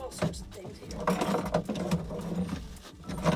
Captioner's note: sounds of metal items moved